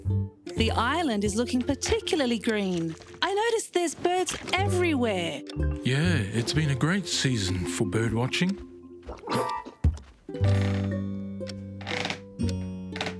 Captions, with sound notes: The island is looking particularly green. I noticed there's birds everywhere. Yeah, it's been a great season for bird watching. (chair cracking)